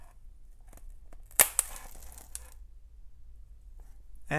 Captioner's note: snapping